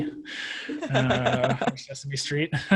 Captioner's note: laughs